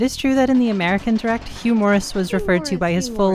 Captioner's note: objects rattling